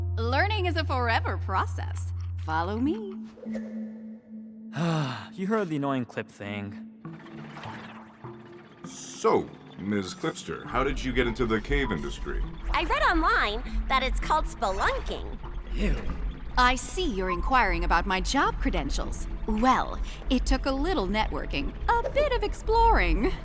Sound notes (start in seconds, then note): 4.7 sighs